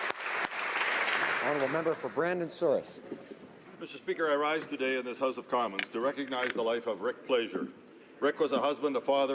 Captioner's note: applause